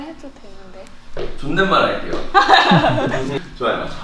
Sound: everyone laughs

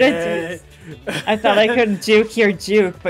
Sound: laughs

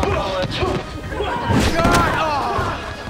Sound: grunting

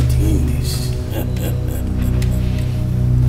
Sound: laughter

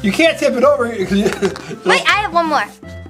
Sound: Mr. Engineer laughs

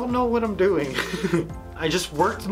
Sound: laughing

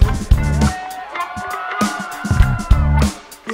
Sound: audience cheers

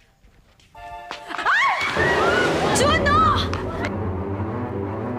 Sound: woman screams

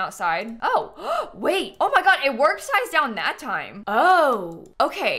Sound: gasps

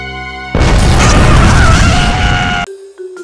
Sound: boom!; scream of agony

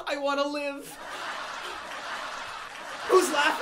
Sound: laughter

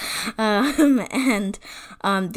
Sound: laughs

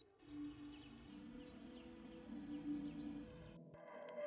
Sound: birds chirping

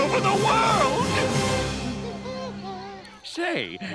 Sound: SpongeBob humming

